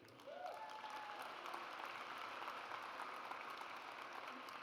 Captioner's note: audience applauds